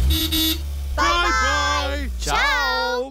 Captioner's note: horn toots